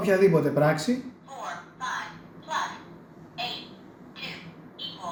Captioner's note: female electronic voice